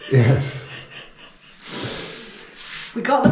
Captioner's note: laughing